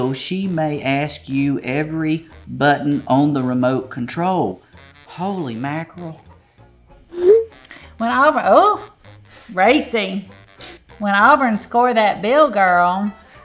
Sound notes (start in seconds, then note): 7.0 text whooshing